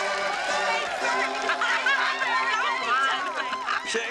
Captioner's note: Возбужденная болтовня